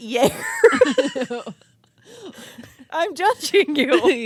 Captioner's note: both laughing